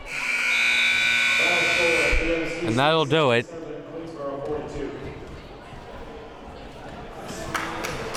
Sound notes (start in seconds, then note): 0.0 buzzer sounding